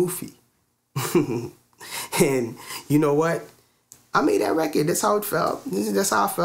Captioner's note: laughs